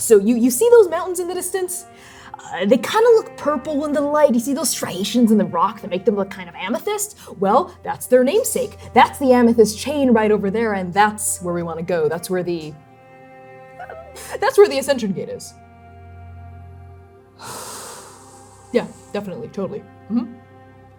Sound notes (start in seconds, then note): 17.4 pissed-off exhaling